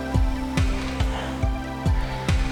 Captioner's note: moaning